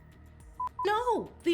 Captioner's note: beep